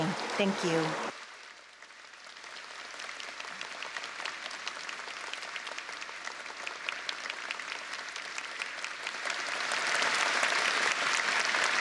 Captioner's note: applause